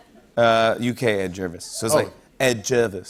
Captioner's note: British accent